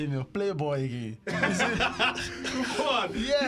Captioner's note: laughter